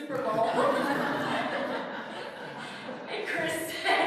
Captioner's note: laughter